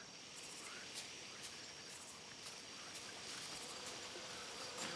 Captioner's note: footsteps approaching